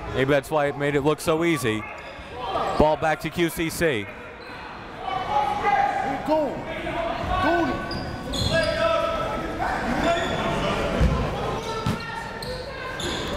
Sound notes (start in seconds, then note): 4.7 crowd talking; 5.0 coaches yelling